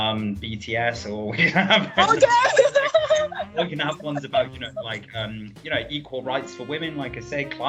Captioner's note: laugh